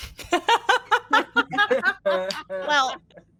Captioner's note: laughs